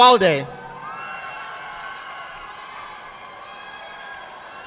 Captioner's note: audience applauding